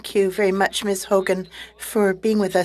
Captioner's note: speaking French